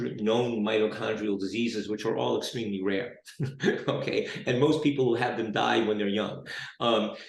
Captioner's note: chuckles